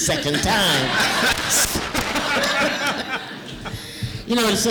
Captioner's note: laughter